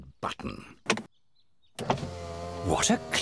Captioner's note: whirring